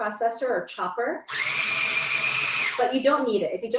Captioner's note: food processor whirring